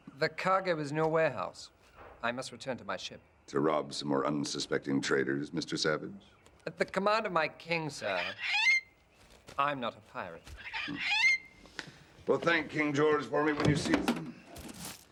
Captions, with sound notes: - The cargo is in your warehouse. I must return to my ship. - To rob some more unsuspecting traders, Mr. Savage? - At the command of my king, sir. (Captain Flint screeching) I'm not a pirate. - Well, thank King George for me when you sees him.